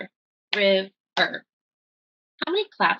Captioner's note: clap